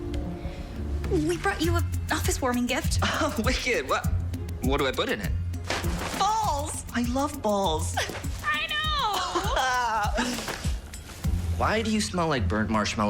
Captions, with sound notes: - We brought you an office-warming gift! - Oh! Wicked! Wha-- What do I put in it? - Balls! - I love balls! - I know! (laughing) - Why do you smell like burnt marshmallow cologne?